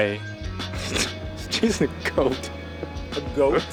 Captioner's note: snorting